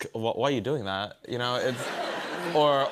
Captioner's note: laughter